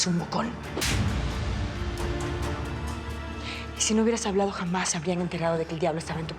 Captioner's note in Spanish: bofetada